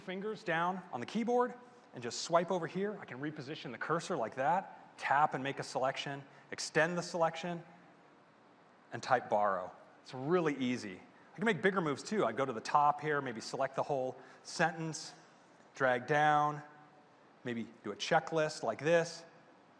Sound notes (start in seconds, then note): none